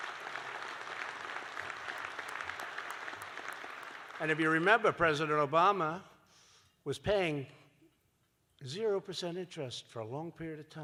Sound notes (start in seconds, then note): 3.4 applause